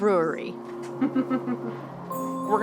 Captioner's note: chuckles